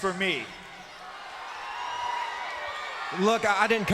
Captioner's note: crowd cheers